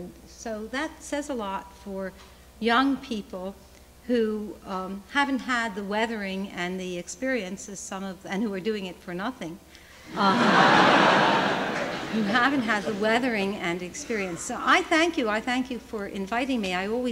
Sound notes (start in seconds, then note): 10.1 laughter